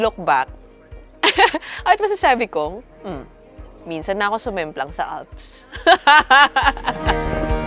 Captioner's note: laughs